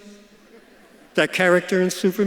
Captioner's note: audience laughs